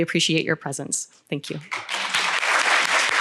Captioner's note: audience clapping